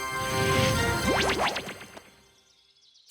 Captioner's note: zap